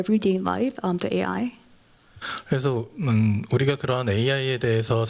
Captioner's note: speaking japanese